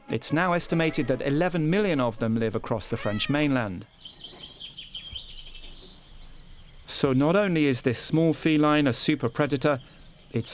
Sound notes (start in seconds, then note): 4.2 birds chirping